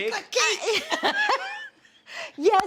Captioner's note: laughing